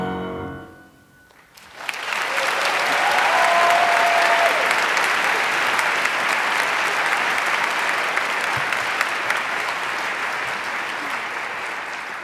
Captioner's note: applause